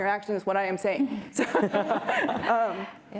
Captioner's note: laughter